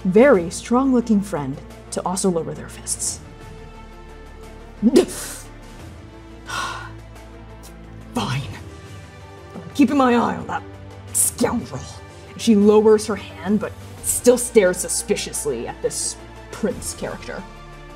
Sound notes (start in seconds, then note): 5.0 angry grunting; 6.4 reluctant sighing